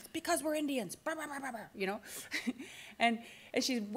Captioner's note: laughs